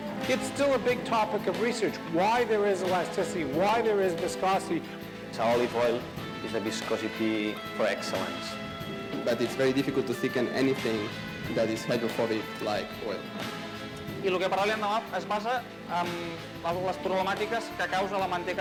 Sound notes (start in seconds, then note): 14.6 speaking spanish